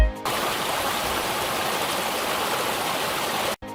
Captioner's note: water babbles